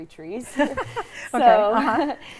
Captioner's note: laughs